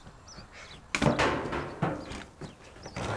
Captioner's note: bat thuds